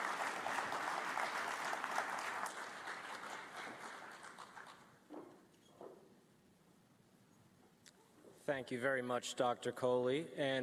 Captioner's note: applause